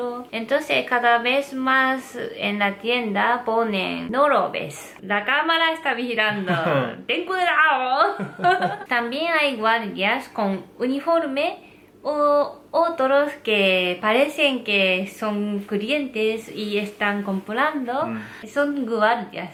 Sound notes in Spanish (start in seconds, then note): 6.3 ríe; 8.1 ríe